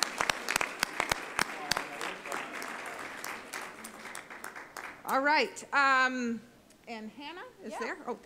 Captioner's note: applause